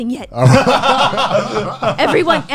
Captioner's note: laughs